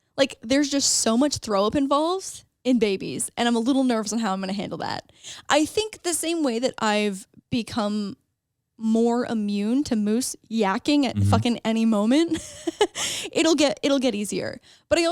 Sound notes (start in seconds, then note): 11.2 laughs